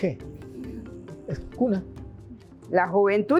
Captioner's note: in indigenous pronunciation